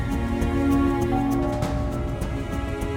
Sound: door bell rings

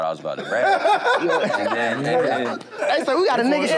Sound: laughter

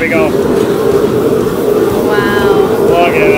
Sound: lobster frying

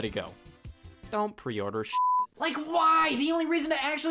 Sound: beeps

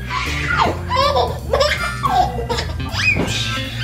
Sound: baby laughing

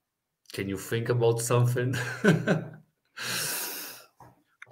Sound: laughs

